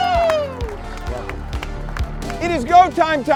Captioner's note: clapping